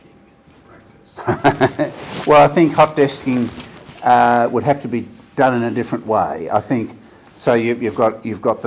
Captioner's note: laughs